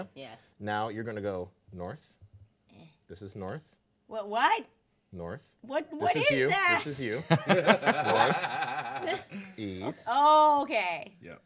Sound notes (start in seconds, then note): 7.0 group laughing